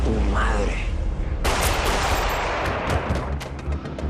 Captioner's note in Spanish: Disparos